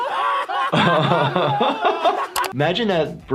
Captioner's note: Jackass crew laughing; doctor laughs